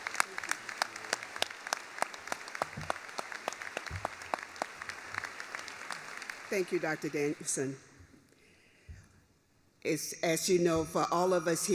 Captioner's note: applause